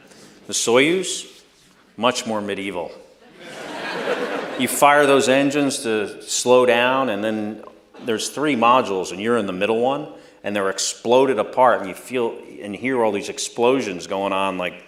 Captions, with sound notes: The Soyuz, much more medieval. (Laughter.) You fire those engines to slow down, and then there's three modules and you're in the middle one, and they're exploded apart and you hear all these explosions going on